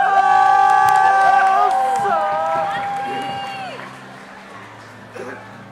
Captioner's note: audience applauding and cheering; gentle organ music